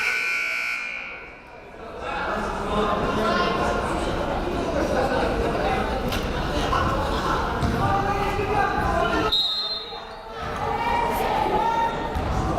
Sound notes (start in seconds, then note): 0.0 buzzer blares; 3.7 players murmuring; 9.3 whistle blows